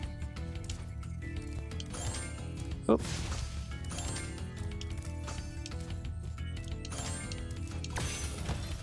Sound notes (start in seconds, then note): 2.2 gem twinkles